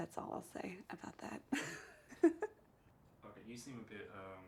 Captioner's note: chuckles